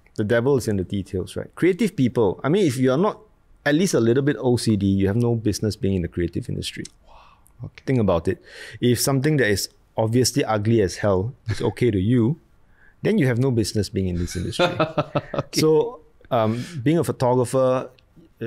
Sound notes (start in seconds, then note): 14.4 laughs